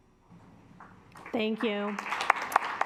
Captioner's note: assembly clapping